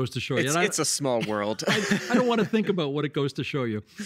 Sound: laughing

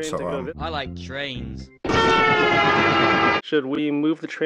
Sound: train horn

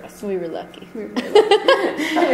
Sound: voiceover; giggling

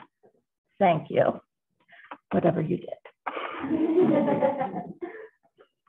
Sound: laughter

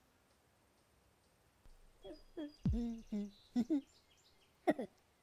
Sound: humming; giggling

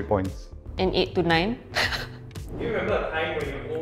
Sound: laughs

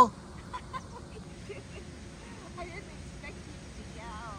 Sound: laughs

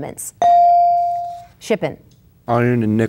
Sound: bell dinging

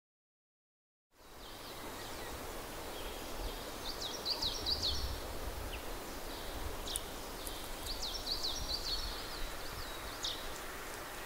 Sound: sound of birds

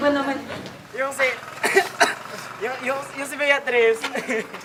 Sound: cough

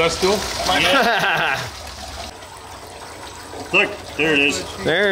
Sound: laughing

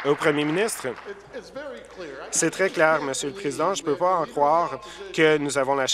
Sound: applause

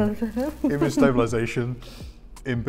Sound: laughs

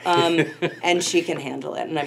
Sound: laughing

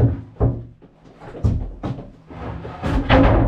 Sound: footsteps

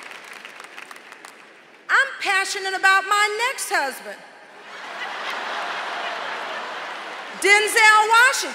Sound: applause; laughter

